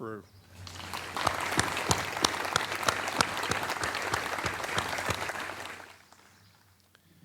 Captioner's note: applause